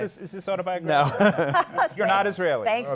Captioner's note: laughter